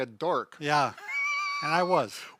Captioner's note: laughing